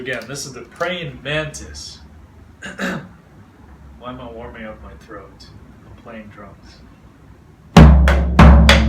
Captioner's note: clearing throat